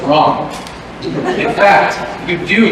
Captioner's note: laughter